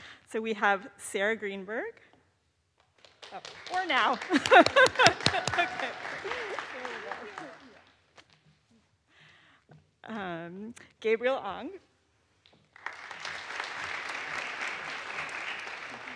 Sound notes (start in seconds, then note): 3.2 students on stage applaud; 4.2 laughs; 5.6 audience applauds; 12.7 audience applauds